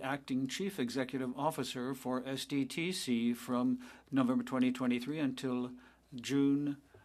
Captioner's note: speaking French